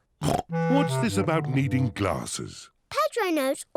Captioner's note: snorts